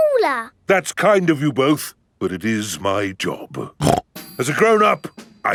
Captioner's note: snorts